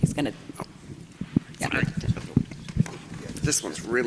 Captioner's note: mic clacking